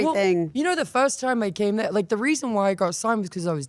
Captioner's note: none